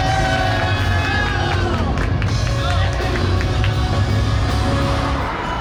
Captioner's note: the staff cheer at incredible performance